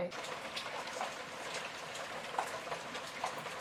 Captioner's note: rain noise